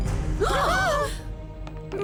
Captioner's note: both gasp